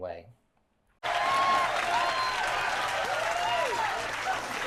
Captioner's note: cheering